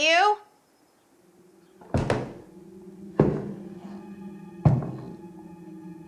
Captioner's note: loud footsteps